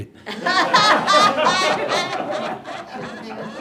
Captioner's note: laughter